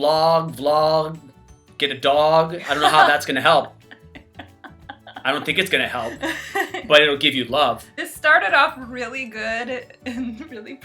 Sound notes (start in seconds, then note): 2.6 chuckles; 2.6 laughs